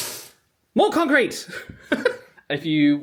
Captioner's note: laughs